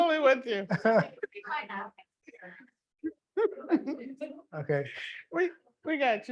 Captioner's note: people laughing